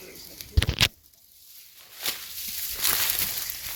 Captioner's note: whispering